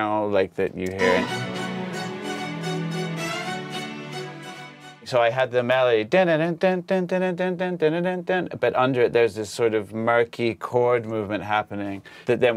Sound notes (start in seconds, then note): 1.0 upbeat music; 6.8 mimics song melody